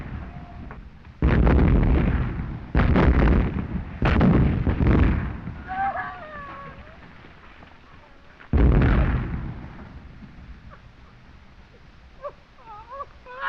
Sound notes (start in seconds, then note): 5.6 screams; 12.2 sobbing